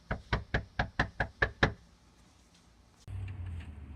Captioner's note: knocking